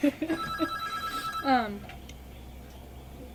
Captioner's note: BOTH laugh; phone rings